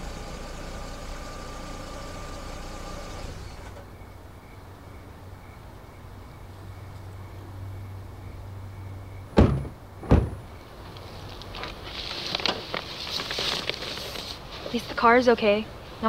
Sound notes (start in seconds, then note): 10.0 car doors close